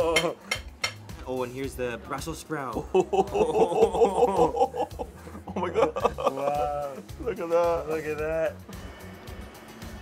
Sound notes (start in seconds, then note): 2.8 chuckling